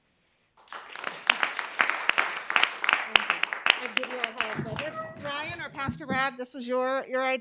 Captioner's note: applause